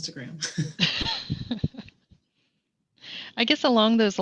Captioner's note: everyone laughing